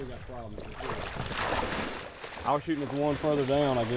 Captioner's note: water splashes